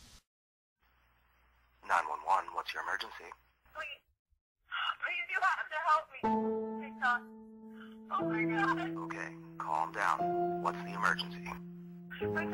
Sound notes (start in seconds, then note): 4.0 Kathleen On Phone; 6.2 tense music